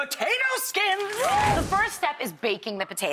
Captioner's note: cheering